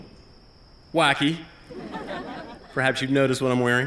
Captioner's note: laughter